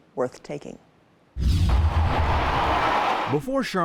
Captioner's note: air whooshes; crowd roaring